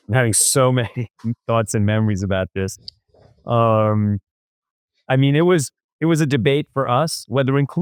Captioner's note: laughs